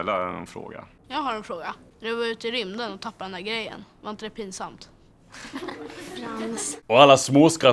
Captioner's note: laughter